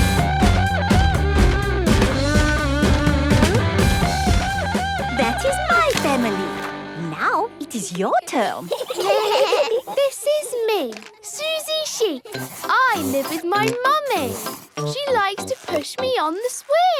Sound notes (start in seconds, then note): 8.4 children giggling